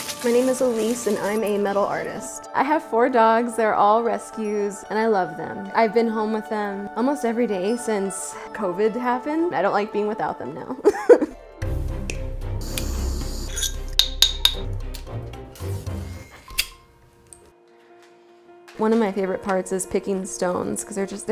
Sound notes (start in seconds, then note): 10.8 laugh; 11.1 upbeat music; 13.5 metal clinking